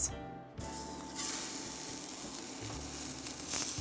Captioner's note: patty sizzles